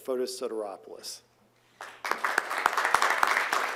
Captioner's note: applause